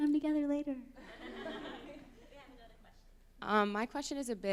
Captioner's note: laughter